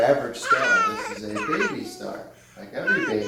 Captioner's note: star crying